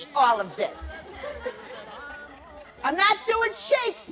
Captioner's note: laughter